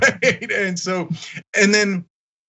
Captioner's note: laugh